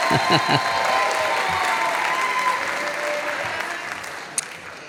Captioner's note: audience applauding